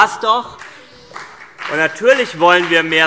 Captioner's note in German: Beifall CDU und BÜNDNIS 90/DIE GRÜNEN